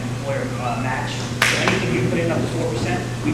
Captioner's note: person claps